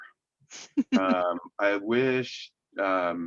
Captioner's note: laughs